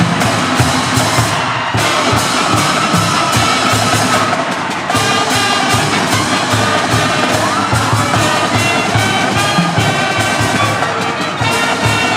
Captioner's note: applause